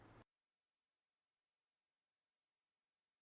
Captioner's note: none